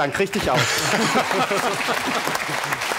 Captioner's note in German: Lachen und Applaus